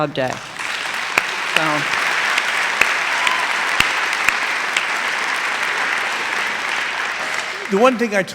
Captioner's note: applause